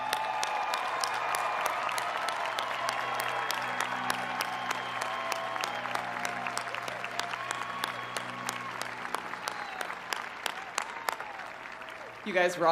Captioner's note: cheers and applause